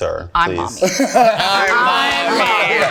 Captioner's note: group laughing